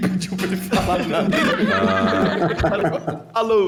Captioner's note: everybody laughing